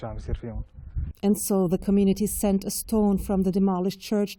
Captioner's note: voice-over